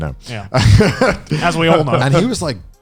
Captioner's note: laughs quickly